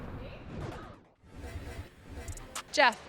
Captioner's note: scene whooshing